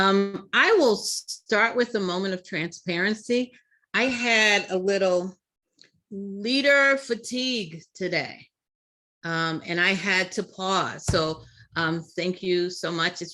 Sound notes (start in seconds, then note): none